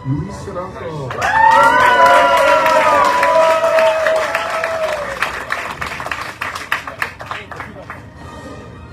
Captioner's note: audience cheering, applauding